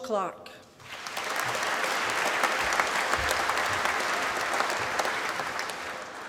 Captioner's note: applause